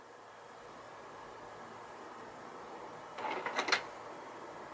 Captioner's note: printer grinding